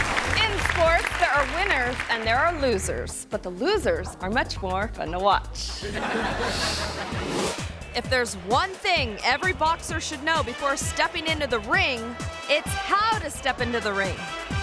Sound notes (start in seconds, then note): 0.0 audience applause; 5.8 audience laughs